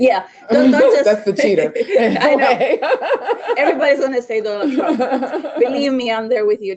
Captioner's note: laughing